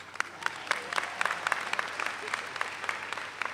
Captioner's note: all applaud